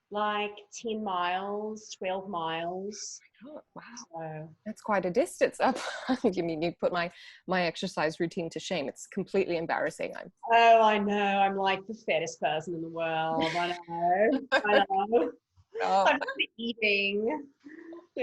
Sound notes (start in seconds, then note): 15.8 laughing